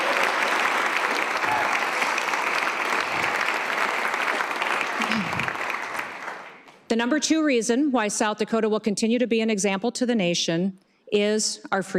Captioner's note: cheers and applause